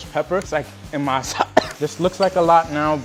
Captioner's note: coughs